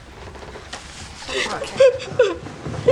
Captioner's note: sobs